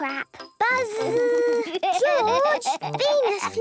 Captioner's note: George laughing